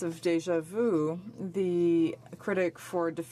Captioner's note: speaking french